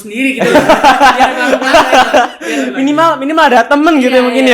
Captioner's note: laughter